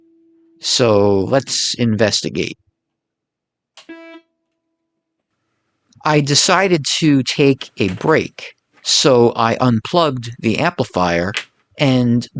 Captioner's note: noise From Amplifier